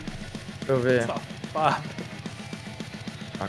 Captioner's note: laughter